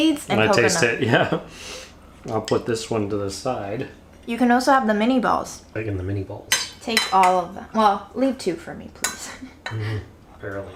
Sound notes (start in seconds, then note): 6.5 bowl clinking; 9.7 laughing